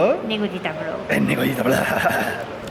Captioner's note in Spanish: con voz tenebrosa